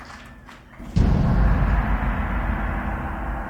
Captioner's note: gong sound